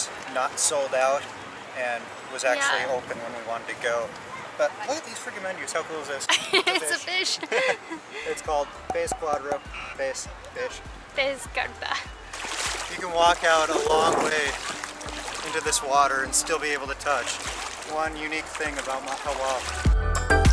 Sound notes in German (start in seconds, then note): 6.2 Gelächter